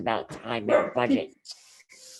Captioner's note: dog barks